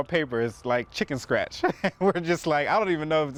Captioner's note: laughs